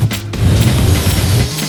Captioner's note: blowing